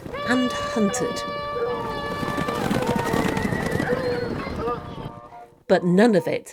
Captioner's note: sound of horses, hounds and hunting horns